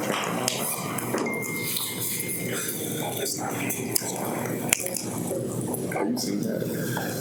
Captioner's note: bell chiming